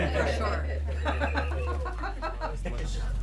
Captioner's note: laughter